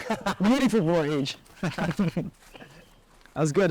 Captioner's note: laughs